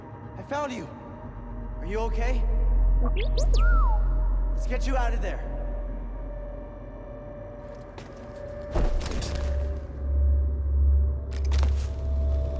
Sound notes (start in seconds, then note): 3.2 boop-beep-whistle